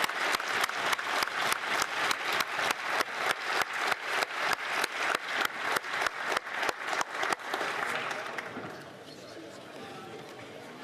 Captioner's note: applause